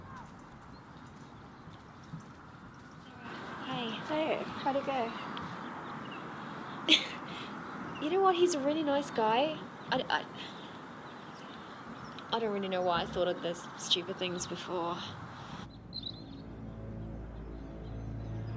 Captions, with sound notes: - Hey. - Hey, how'd it go? (laughs) - You know what, he's a really nice guy. I don't really know why I thought of those stupid things before. (tense music)